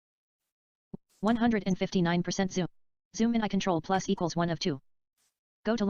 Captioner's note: screen reader audio continues